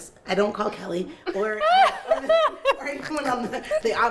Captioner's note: laughs